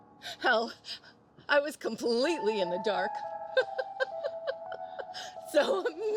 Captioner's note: laughs